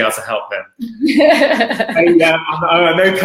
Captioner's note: laughing